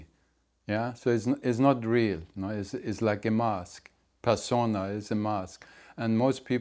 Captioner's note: latin